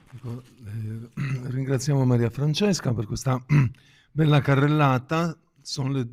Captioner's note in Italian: schiarire la voce